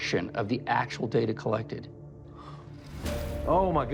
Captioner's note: exhales